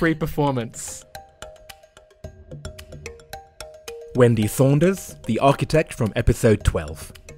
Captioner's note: voiceover